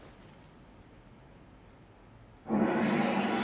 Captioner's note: explosion on TV